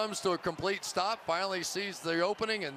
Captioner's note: pa announcement